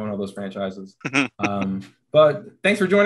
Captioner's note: chuckling